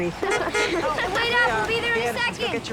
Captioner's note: horn honks